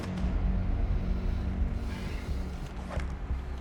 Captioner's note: sighs